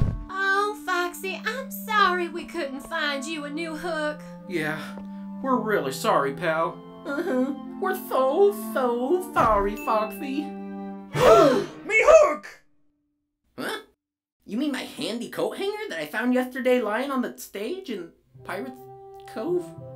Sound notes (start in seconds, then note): 11.1 all gasp